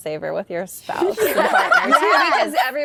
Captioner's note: laughter